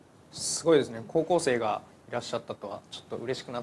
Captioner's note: speaking japanese